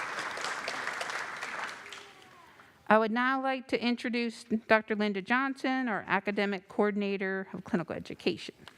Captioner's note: applause